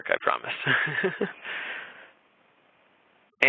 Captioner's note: chuckling